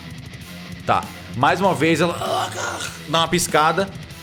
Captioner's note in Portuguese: grunhidos